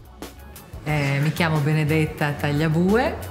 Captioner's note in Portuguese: fala italiano